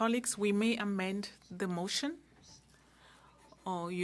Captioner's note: speaking French